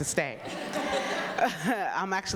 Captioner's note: audience laughing